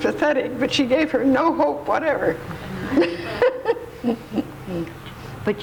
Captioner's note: laughs